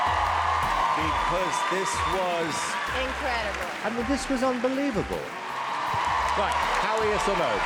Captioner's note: cheering